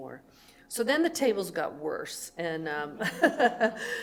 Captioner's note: laughs